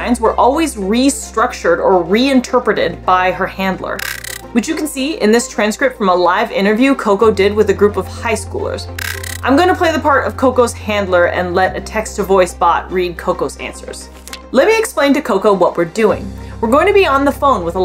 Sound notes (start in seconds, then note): 8.9 background music; 9.0 glitch sound effect